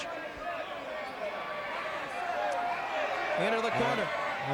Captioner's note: fans shouting